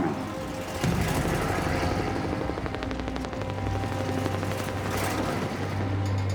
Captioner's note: helicopter blades whirring